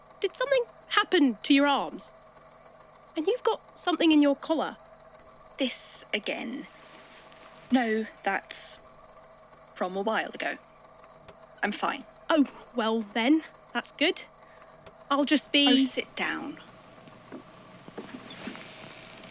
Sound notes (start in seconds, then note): 6.7 shuffling; 15.3 audio crackling slightly